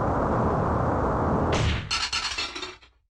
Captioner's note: thud